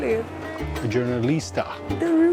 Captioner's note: in Portuguese